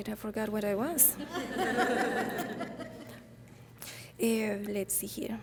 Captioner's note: audience laughing